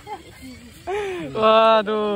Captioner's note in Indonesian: Tertawa